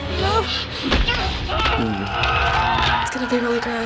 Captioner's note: skull crumpling